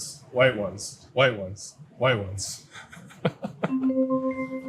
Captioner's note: laughs; gentle chiming music